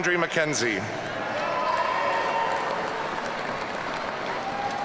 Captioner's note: audience cheering